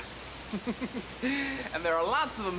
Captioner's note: Levar laughs